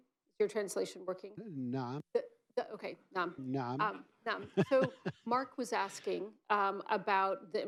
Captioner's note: laughs